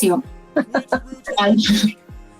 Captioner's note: laughs